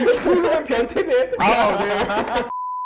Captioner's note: laughter